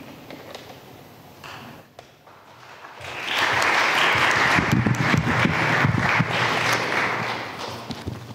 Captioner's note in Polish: oklaski